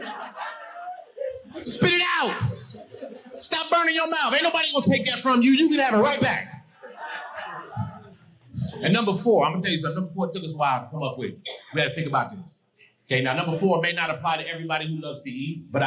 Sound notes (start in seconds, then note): 6.6 audience laughing